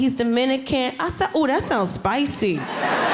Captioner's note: audience laughing